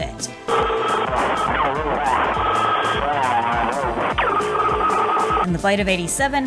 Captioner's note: police static